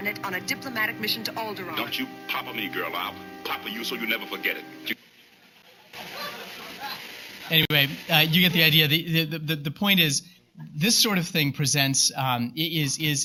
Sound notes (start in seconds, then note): 5.6 laughter